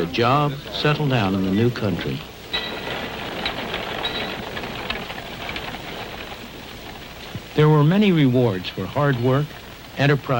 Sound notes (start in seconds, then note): 2.5 street sounds